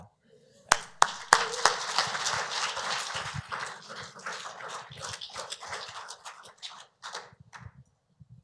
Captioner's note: applause